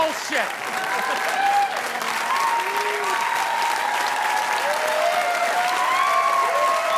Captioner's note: audience applauding; crowd cheering